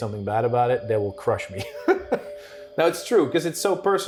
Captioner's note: laughing